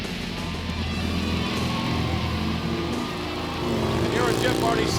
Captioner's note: motor engine revs